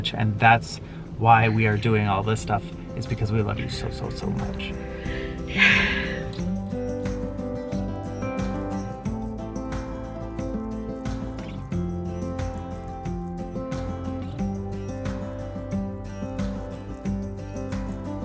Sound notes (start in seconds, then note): 4.7 sighs; 7.8 gentle music